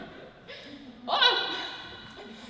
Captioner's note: laughter